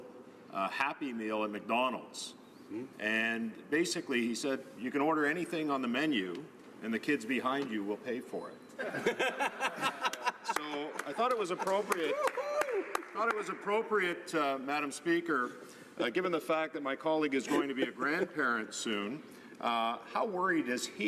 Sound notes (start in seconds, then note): 11.4 laughter